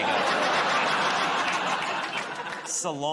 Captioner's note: laughter